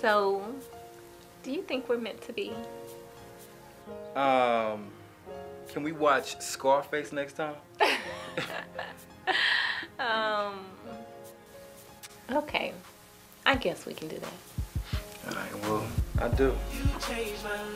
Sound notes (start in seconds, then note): 7.8 laughter